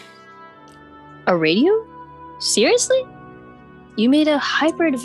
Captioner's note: with audible confusion